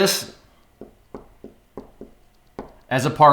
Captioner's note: tapping